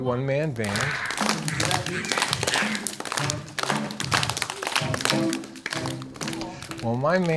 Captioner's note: children clapping; lively music